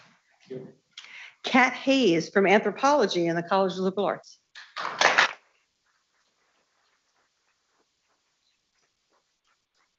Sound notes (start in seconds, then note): 4.5 people clapping